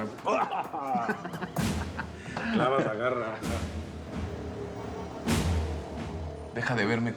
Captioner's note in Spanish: risas